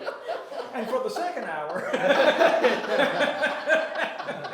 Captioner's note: laughter